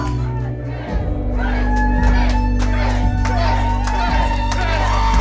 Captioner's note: crowd; cheering and applauding